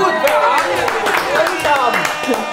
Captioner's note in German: Jubel, Applaus